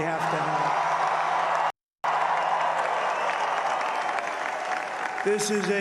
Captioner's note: applause